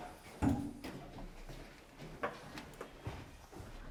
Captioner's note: door clunks softly